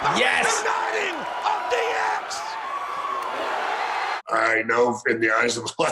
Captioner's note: crowd cheers